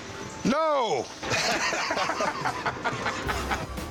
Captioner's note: laughing